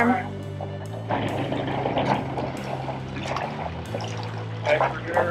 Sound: boat engine noise

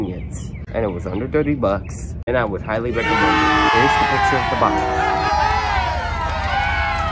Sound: YEAAA! Applauding!

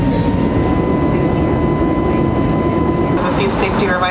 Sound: plane engine whirring

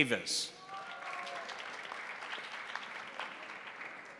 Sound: crowd applauding

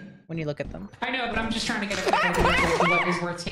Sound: Bracken sound, Sophie screams

